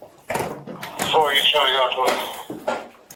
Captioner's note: radio chatter